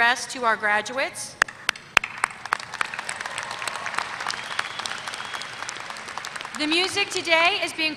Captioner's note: applause